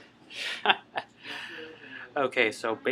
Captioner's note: chuckles